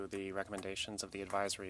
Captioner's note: speaking French